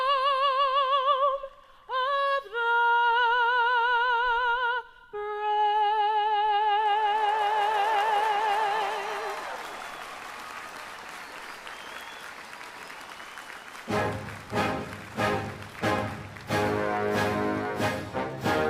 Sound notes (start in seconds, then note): 10.3 applause; 11.1 cheers